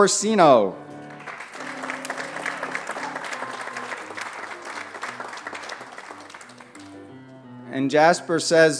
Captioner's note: applause